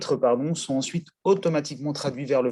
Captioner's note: in Swedish